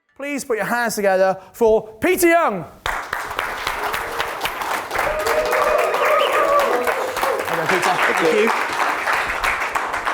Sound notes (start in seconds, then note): 2.8 audience applause